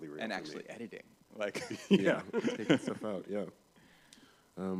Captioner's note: laughter